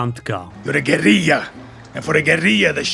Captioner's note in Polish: głosy bohaterów z gry